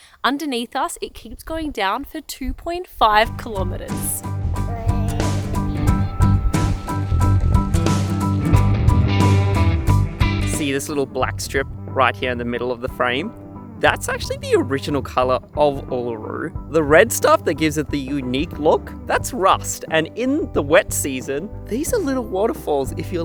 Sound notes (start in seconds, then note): 4.0 upbeat music; 4.6 whimpers